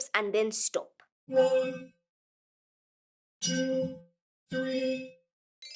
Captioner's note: robotic Voice